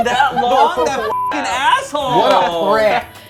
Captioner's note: beep